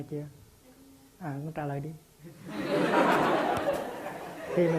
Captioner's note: audience LOL